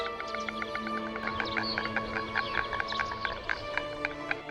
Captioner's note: storks croaking